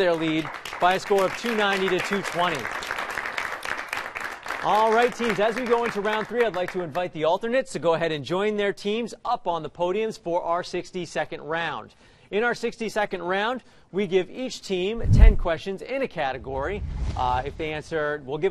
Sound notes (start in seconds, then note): 2.3 applause